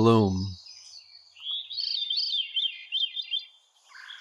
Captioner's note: a veery sings